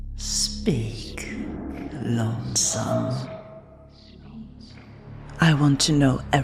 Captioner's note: echoing